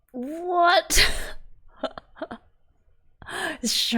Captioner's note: laughs